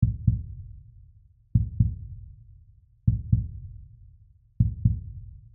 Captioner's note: heartbeat